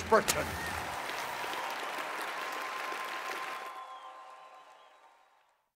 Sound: cheering and applause

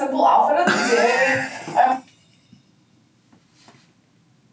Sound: laughs

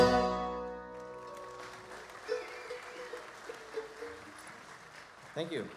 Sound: audience applauds

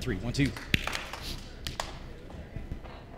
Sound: claps

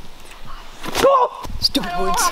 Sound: screams

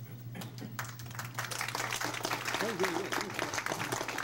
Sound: crowd applauds

